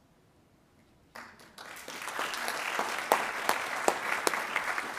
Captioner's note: attendees applauding